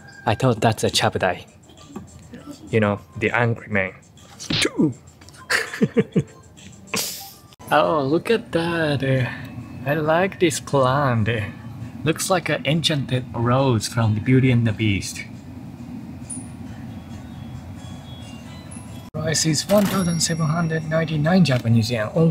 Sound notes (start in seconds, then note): 5.3 laughs